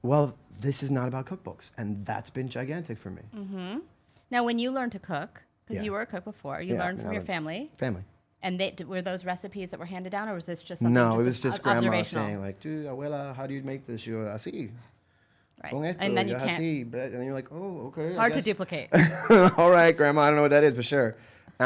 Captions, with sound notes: - Well, this is not about cookbooks. And that's been gigantic for me. - Uh huh, now when you learned to cook, - Yeah. 'cause you were a cook before, you learned from your family, - Yeah. - Family. - Were those recipes that were handed down? Or was this just something that was observational? - No, this was Grandma. Abuela, how do you make this? (speaking Spanish) - And then you can't - And you're like "oh, okay!" - Hard to duplicate. (laughing) - All right, Grandma, I don't know what that is, but sure!